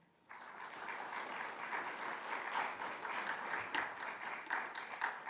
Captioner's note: audience applauds